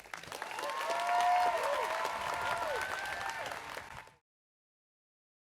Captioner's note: audience cheers and applauds